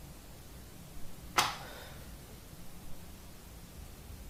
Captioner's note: light switch clicks